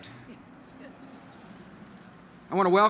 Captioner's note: laughter